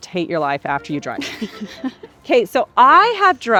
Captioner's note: laughs